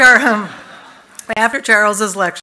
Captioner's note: laughter